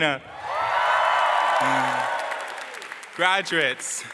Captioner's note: crowd cheering and applause